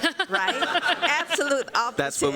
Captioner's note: laughter